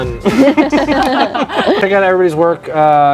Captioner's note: all laughing